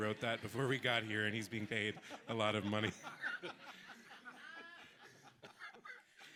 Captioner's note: people laughing